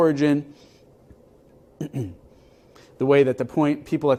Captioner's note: cough